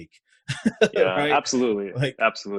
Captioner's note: laughs